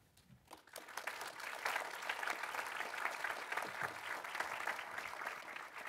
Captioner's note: audience applauding